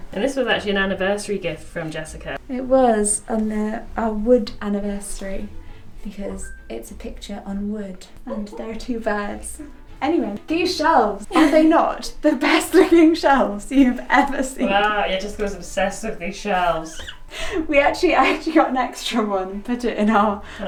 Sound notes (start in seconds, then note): 11.4 chuckles; 16.9 laughs